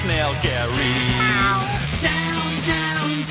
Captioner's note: meowing